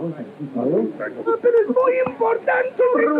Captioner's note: speaking portuguese